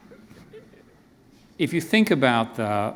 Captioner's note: pause